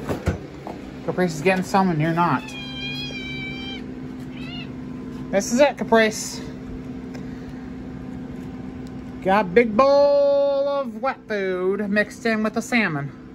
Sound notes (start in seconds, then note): 2.5 Caprice meows